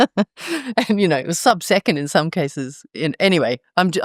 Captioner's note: laugh